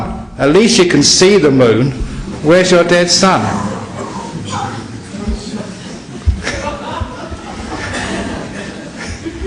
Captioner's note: laughter